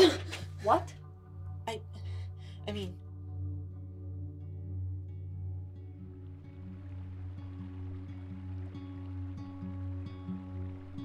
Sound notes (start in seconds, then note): 6.4 running water